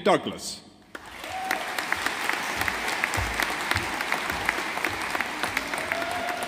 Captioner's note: audience applauding